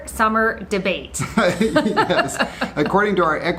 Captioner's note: both laughing